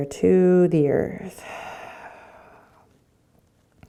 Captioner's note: exhaling